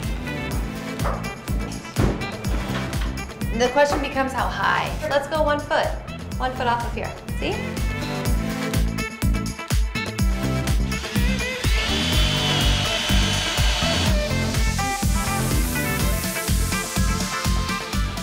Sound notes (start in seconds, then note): 0.2 lively upbeat music; 8.8 lively upbeat music; 10.7 drill drilling